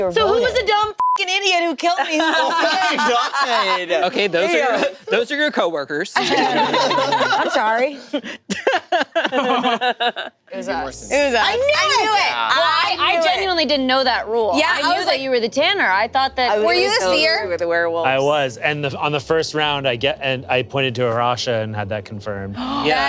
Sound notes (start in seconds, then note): 0.9 beep; 2.0 group laughing